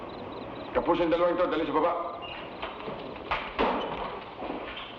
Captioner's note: Magno speaking in Tagalog